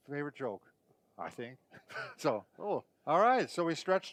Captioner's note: laughing